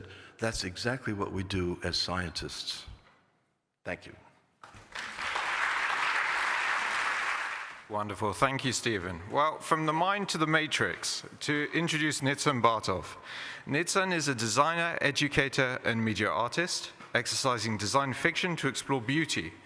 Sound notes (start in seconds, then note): 4.6 applause